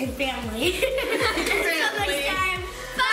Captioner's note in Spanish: risa